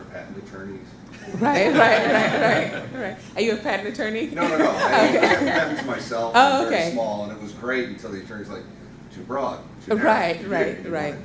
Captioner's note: laughs